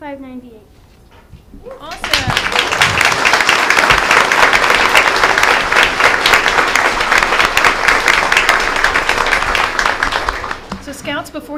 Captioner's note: applause